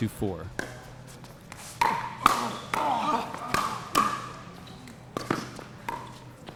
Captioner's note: shoes squeaking; ball being hit